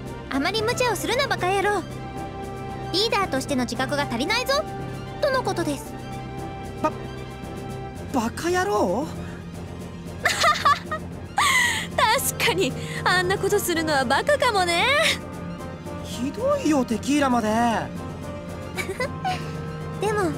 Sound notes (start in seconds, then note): 10.2 laugh; 18.7 giggle